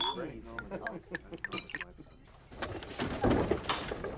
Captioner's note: glass clinks; door clanks